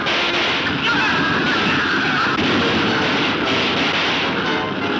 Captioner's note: gunshots banging